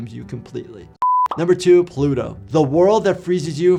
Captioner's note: beep